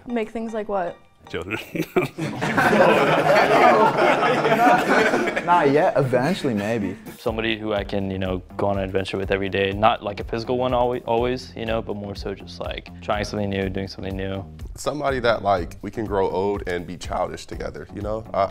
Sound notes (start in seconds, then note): 1.4 laughing; 3.5 men laughing